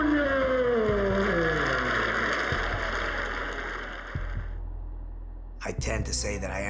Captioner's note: applause